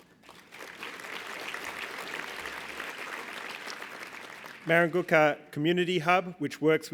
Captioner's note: applause